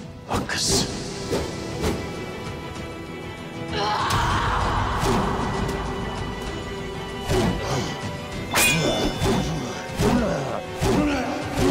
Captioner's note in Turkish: Kılıç Sesleri